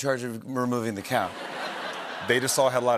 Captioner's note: laughter